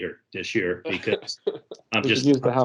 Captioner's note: laughs